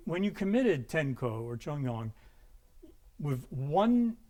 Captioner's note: speaking in a foreign language